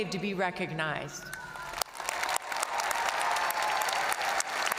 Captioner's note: all applauding